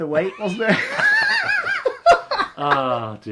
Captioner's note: laughing